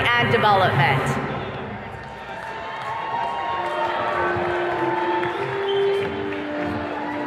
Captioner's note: attendees cheers and claps